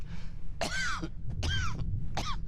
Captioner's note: coughs